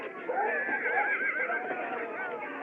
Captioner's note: horse Whinnies